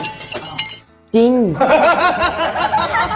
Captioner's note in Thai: ฮ่ะๆๆๆๆ